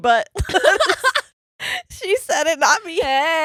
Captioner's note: laughing